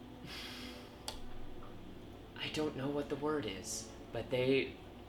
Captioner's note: sighs